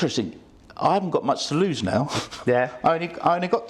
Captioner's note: laughs